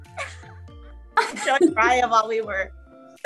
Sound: laughing

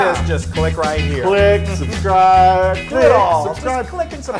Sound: laugh

